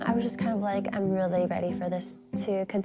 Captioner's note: none